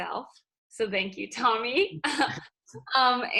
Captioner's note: laughs